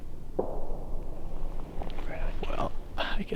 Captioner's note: gun fires